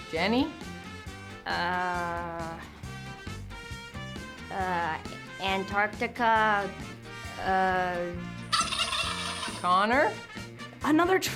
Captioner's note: buzzes